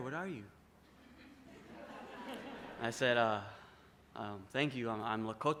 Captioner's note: laughter